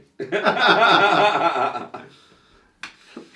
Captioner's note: laughs